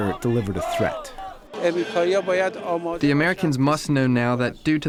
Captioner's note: through translator